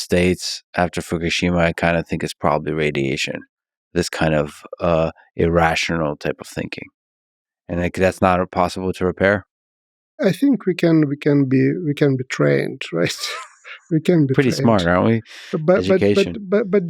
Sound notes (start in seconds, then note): 12.4 laughs